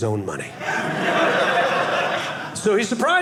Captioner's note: audience laughing